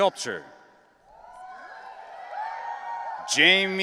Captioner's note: audience cheering